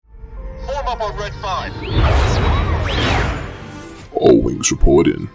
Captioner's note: whistles